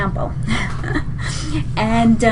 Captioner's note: laughs